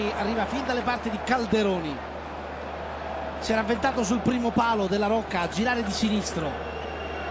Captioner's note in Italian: Applauso